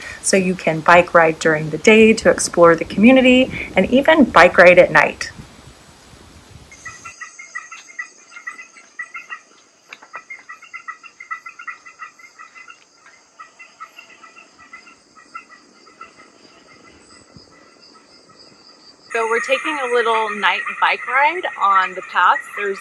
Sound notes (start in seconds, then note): 7.7 animals chirping